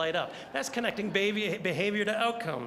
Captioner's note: audience laughing